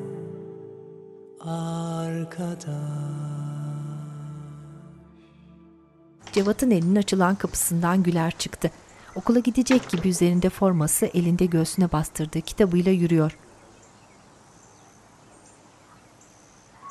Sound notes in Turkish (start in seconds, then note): 9.4 Kapı kapanma sesi; 12.6 Kuş sesleri